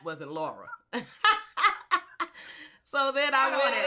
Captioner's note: laughs